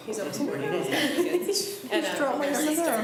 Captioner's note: laughs